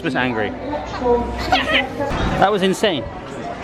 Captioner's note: laughs